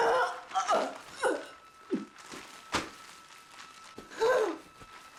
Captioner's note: Joan gasping